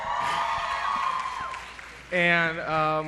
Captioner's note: applause